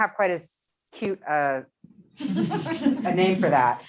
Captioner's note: laughing